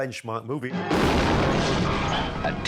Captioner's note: booming explosion